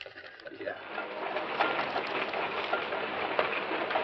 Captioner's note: pots clacking